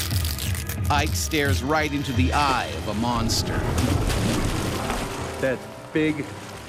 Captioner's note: voiceover